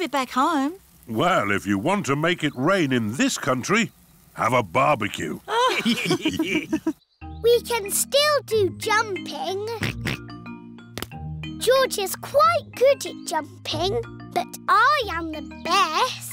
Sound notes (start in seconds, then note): 5.5 all laughing; 9.8 oinks